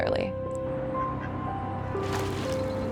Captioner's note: quacking; wings wooshing